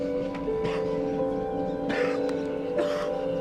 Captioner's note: coughs